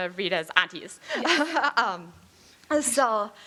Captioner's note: chuckling